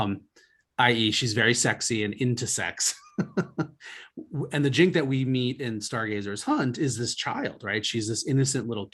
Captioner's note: laughs